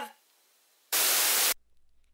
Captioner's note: static